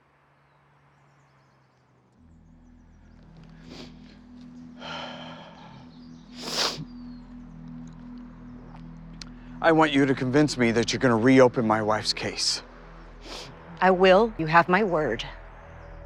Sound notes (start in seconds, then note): 3.0 intense music begins; 4.6 Tom sniffles, sighs